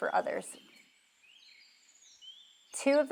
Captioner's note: birds chirping